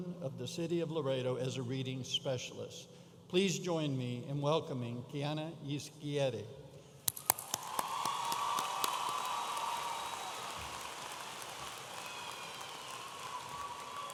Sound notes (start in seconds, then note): 7.1 audience applauding and cheering